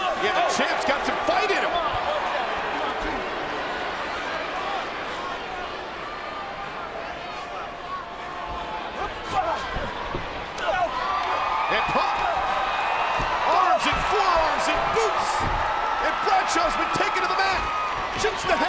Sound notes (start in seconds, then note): 2.8 crowd cheers; 10.8 men grunt